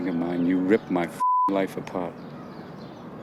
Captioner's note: beeping